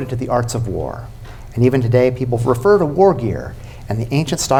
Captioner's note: none